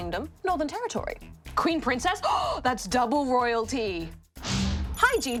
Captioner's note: gasps